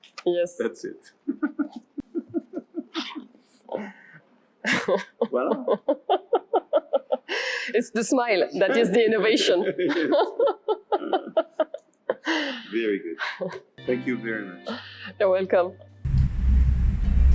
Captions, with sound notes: Yes. - That's it. (laughs) (laughs loudly) Well. It's the smile, that is the innovation. (laughs loudly) - Very good, thank you very much. - You are welcome.